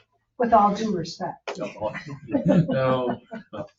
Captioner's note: laughs